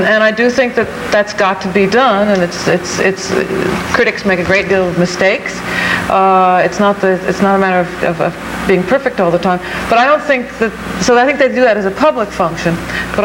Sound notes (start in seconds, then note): none